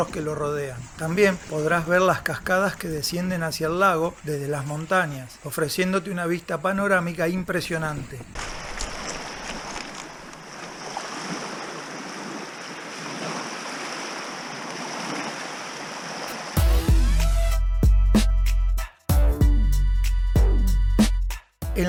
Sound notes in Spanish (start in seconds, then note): 8.3 Ruido del agua y las rocas